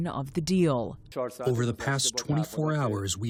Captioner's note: through translator